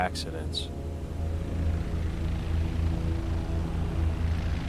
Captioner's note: plane rumbling